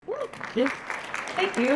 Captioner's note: applause